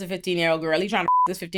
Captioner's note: beep